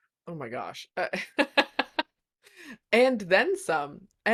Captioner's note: laughing